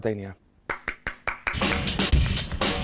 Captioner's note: applause